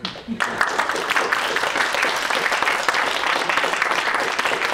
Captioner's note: applause